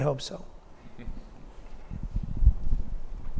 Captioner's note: audience member laughing